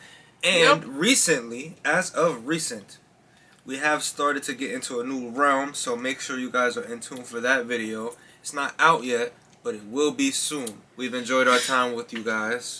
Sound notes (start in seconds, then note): none